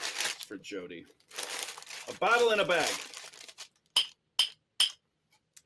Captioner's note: bottle clinking